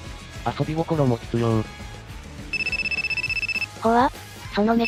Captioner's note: phone ringing